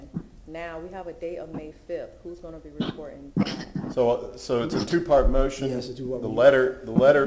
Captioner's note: off microphone